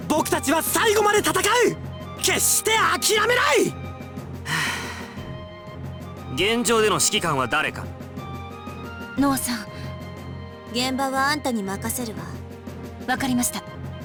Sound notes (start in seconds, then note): 4.4 resigned sigh